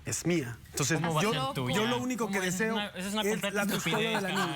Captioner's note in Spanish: risas